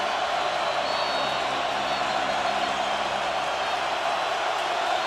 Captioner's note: whistle